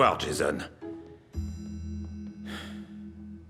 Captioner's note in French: soupirs